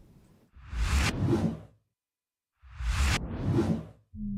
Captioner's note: logo whooshing